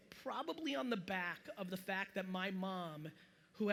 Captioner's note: none